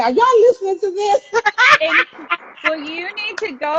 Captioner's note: laughing